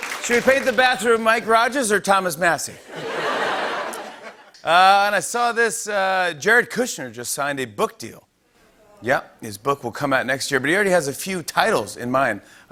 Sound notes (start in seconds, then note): 2.8 laughter